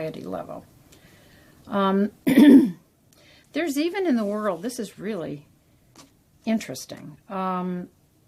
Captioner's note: cough